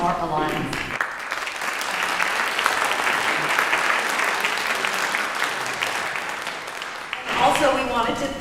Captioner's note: applause